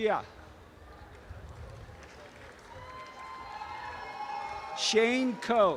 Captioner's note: audience cheering and applause